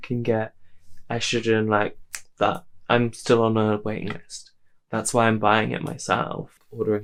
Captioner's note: snaps fingers